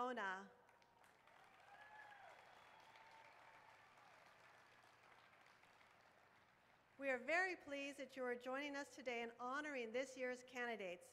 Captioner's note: applause